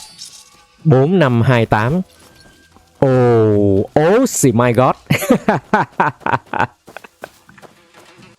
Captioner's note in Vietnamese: tiếng cười